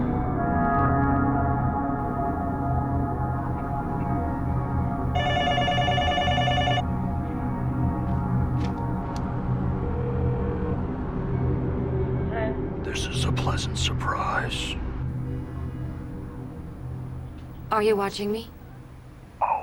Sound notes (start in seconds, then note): 5.2 telephone ringing; 9.7 line ringing